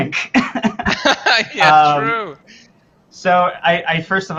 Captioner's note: laugh